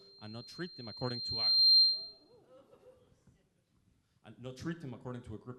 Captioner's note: mic screeches